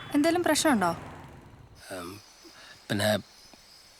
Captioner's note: stammers